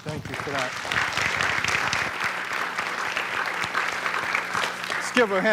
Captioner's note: audience clapping